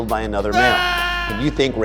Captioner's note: yelling